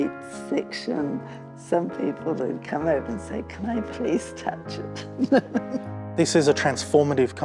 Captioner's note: laughs